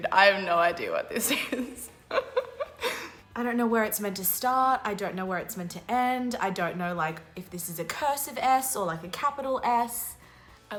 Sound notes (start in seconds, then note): 2.1 laughing